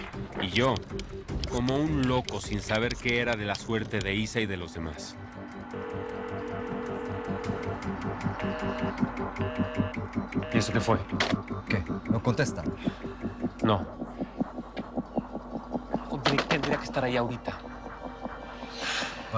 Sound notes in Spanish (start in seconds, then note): 8.7 Tono de ocupado